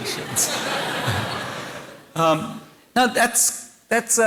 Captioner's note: laughter